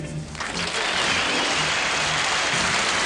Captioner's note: applause